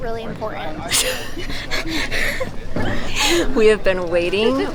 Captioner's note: laughing